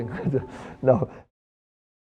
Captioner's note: chuckles